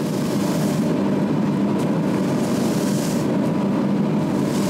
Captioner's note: whirring of the grinding machine and grinding noises